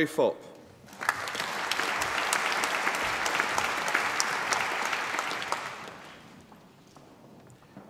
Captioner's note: applause